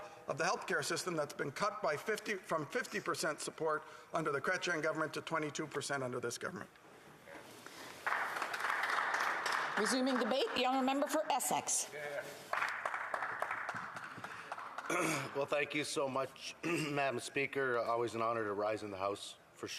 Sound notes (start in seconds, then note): 12.2 some Applause